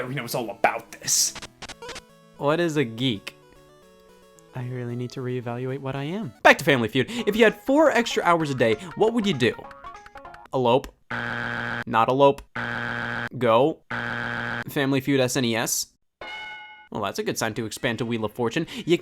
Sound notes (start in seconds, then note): 12.5 buzzer beeps; 16.2 bell rings